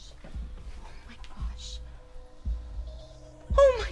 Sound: heart beating

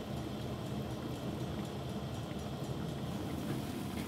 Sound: gently simmers

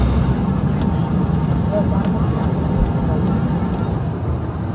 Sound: engines roaring lightly

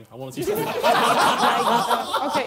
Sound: laughing

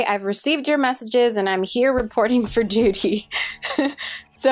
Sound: laughs

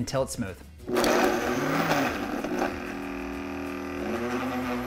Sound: blender whirring

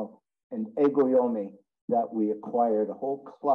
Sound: speaks in Japanese

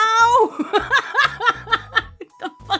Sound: laughs

